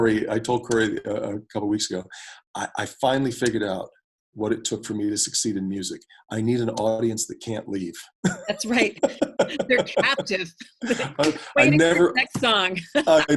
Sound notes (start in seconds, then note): 8.2 both laugh; 8.2 laughs; 10.9 both laugh